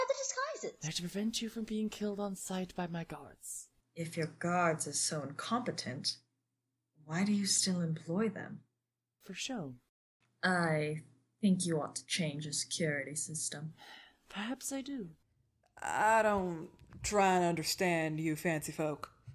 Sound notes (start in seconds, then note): 14.4 sighs